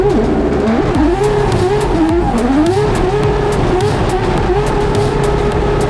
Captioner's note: race car revving continues